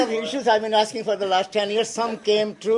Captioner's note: laughter